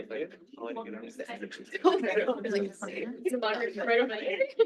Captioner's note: people chattering